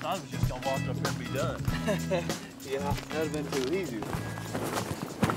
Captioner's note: laughing